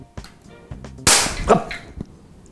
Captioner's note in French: explosion